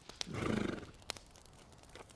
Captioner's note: grunting